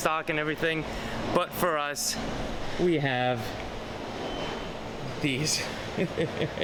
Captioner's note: chuckles